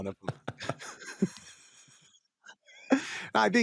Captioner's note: laughing